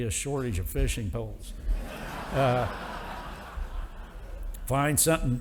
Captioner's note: audience applauding